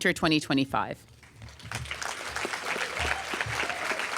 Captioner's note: applause